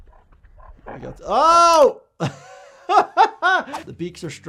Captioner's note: doctor laughs